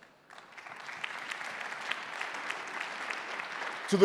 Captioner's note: applause